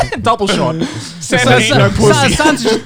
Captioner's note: both laughing